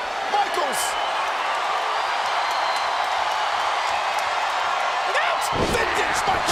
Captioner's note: audience cheering